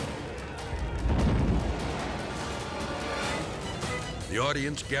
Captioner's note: stage frame exploding; edgy dramatic music; fire blazing